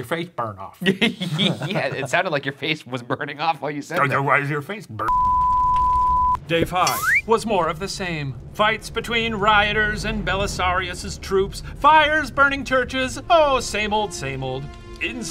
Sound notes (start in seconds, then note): 0.8 laughs; 5.0 screen beeping